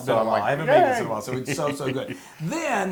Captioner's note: laugh